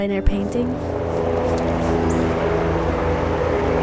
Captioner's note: helicopter flying